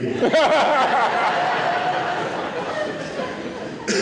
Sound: laughter

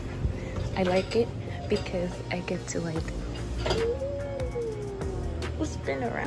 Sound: excited sounds

